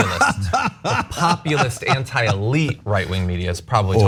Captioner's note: laugh